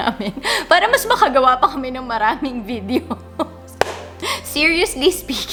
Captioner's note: laugh